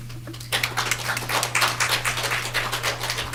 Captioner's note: applause